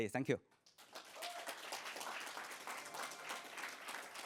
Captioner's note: applause